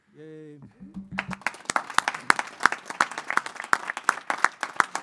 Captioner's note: board applauding